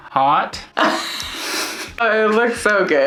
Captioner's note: laughing